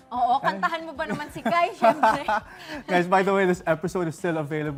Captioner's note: laughter